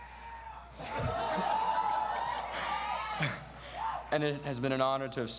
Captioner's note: audience laughs and cheers